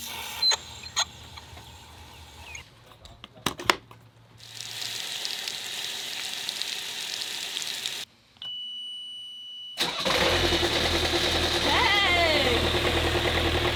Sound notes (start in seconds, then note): 0.2 water rippling; 4.8 water rippling; 8.4 beep; 10.0 boat engine roaring